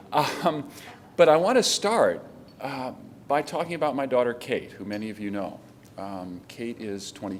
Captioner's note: laughter